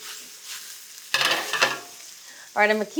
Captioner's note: pan sizzling; pan rattling